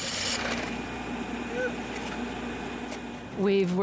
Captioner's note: drill whirring